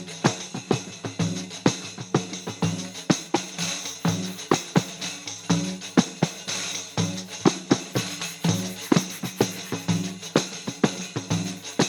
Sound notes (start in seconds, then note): 2.8 brushstrokes on the canvas